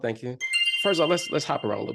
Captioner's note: chiming sound